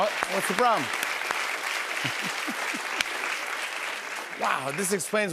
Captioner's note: applause